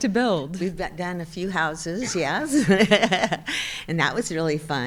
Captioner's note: chuckles